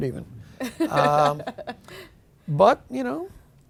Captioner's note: laughing